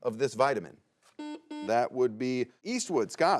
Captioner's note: buzzer buzzes